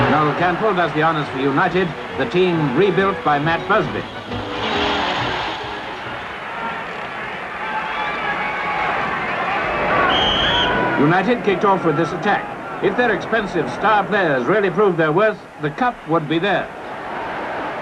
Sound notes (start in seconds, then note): 10.0 whistle blows